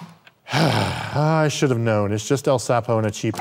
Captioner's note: sighs